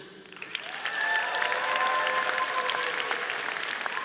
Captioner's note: audience applauding